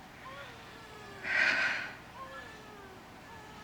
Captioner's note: sighs wearily